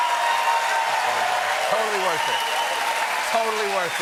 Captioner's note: cheers and applause